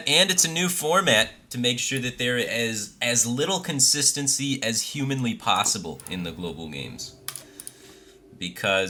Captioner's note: deep breath